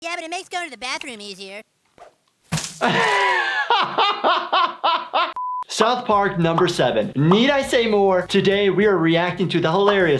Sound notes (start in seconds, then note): 1.9 squishing; 2.8 laughing